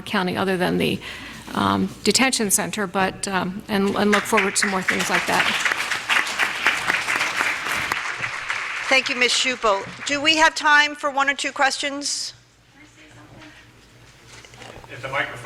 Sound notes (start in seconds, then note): 6.0 applause